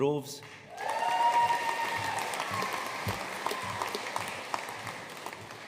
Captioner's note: audience cheering and applauding